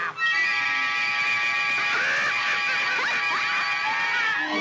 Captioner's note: she Laughs Mockingly